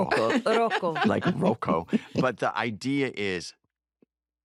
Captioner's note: laughter